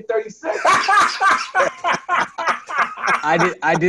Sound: laughs

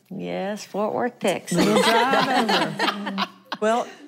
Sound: laughter

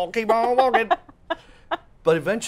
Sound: laughs

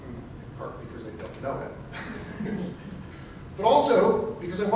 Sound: laughs

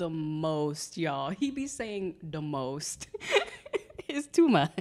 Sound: laughing

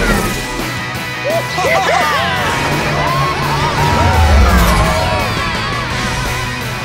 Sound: cheering

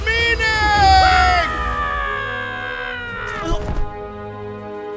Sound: monk yelling

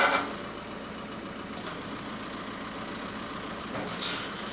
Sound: sound of tractors engine

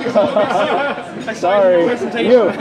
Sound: laughing

